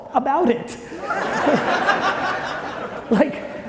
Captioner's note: audience laughing loudly